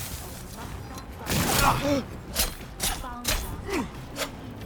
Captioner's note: grunting; grunting